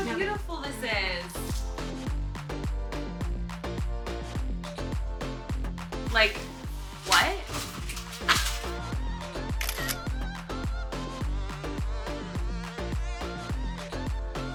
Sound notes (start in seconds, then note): 1.8 upbeat music; 7.8 upbeat music; 9.6 camera snaps; 10.7 upbeat music